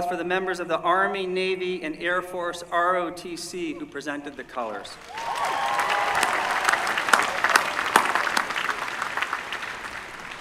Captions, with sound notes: for the members of the Army, Navy, and Air Force ROTC who presented the colors. [APPLAUSE]